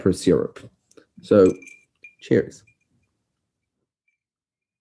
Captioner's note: ice clinks